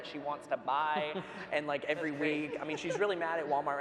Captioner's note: panel laughs